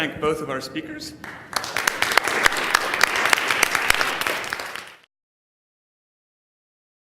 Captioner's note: applause